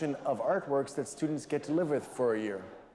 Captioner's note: none